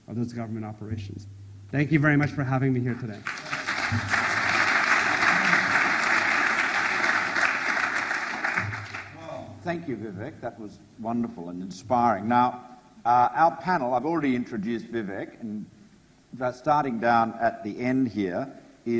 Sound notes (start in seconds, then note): 3.1 audience applauds